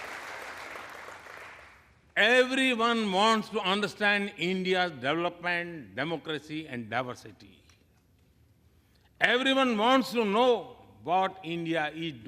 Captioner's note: applause